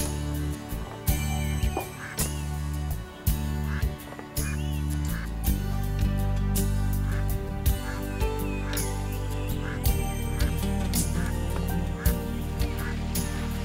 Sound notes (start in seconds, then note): 3.8 ducks quacking